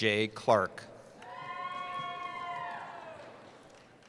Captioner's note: cheering